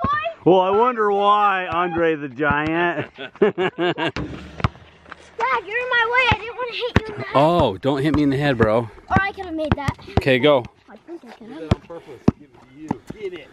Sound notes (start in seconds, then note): 2.9 laughter